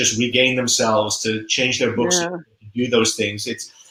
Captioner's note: voice muffled